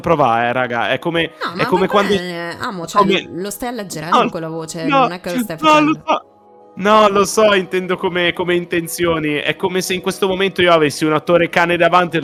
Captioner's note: clears throat